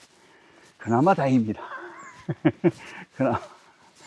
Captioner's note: laughs